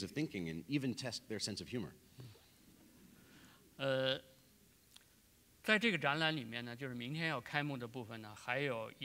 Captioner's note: speaking in Chinese